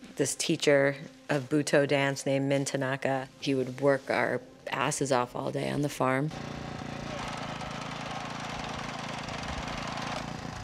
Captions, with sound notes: This teacher of, Butoh Dance, named Mintinaka, he would work our asses off all day on the farm. [machines roaring]